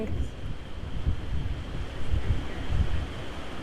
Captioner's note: wind whooshing